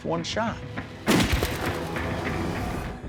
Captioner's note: gunshot